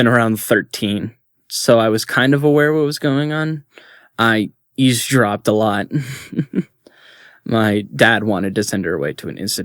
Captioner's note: chuckles